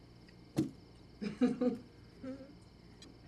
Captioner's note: Carlene chuckling